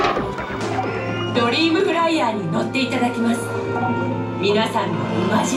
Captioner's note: speaking Japanese